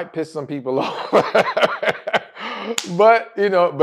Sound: laugh

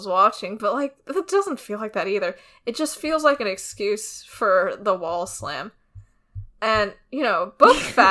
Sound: laughs

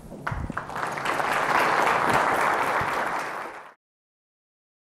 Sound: audience applauding

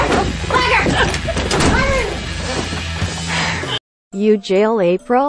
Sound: door shut

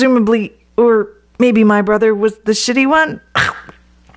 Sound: choke

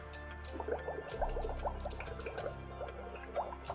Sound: water burbling

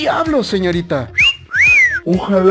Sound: whistle

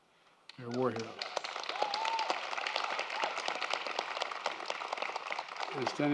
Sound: applause

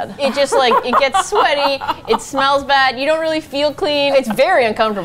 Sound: laughs

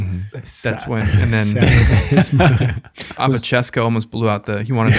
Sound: all laugh

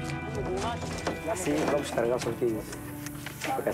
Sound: Portuguese spoken audio

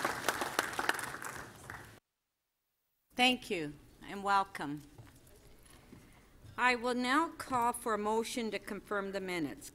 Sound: applause

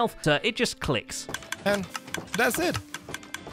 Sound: dispenser clicking repeatedly

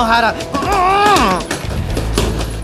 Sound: grunting

